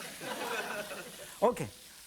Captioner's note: audience laughing